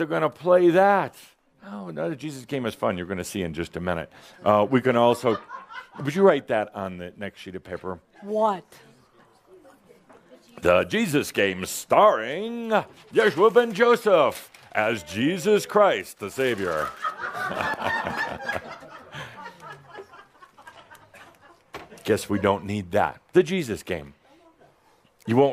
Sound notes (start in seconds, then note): 5.2 some giggles